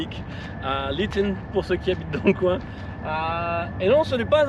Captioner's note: english accent